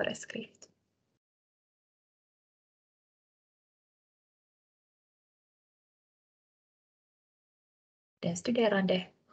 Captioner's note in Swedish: Tystnad